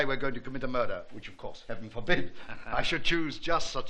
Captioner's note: chuckl|ng